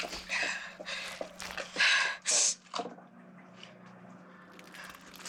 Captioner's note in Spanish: Sollozos